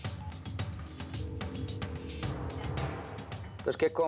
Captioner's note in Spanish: la otra línea timbra